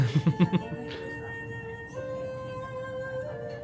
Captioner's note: laughs